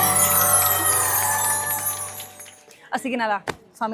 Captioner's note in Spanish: ovación